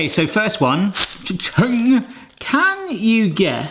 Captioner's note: wrapper snaps